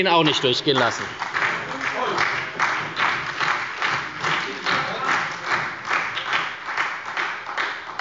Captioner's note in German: Beifall bei der SPD